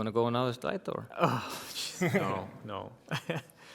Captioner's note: sighing